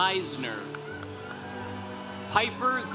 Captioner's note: congregation cheering